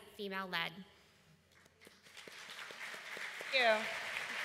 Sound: applause

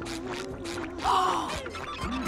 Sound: gasping

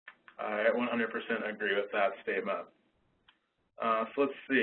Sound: voiceover

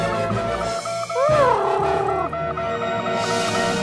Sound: Huti hoots; dramatic music

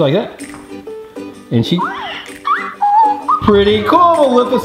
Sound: squeaks

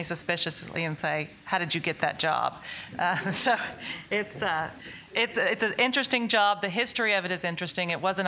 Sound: laughs

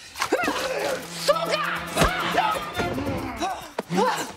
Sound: shouts out in Russian

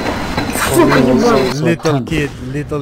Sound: Russian

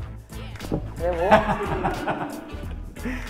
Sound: laughter

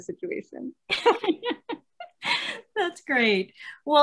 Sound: laughing

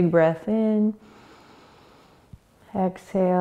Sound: inhaling

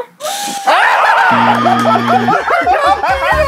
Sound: manly yells

